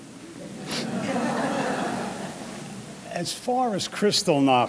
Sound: audience laughing

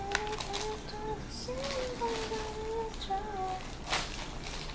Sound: humming

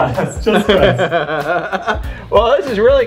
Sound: laughs

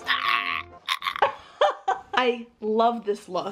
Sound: laughs loudly

